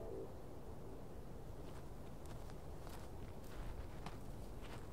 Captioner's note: footsteps pattering